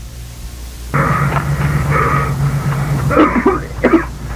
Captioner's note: heavy Breathing; loud Cough